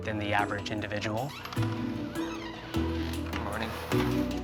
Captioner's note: door creaks